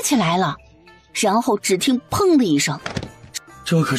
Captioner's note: thud